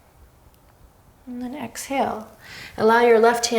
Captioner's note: deep breath